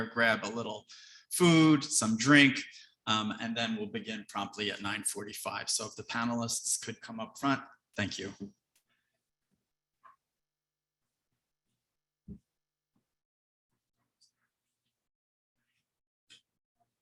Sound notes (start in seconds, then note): none